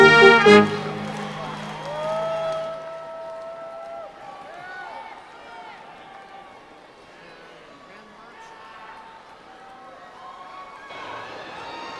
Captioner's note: cheering